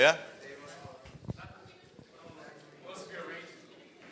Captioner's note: audience members chattering